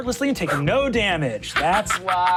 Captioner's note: Sofia laughs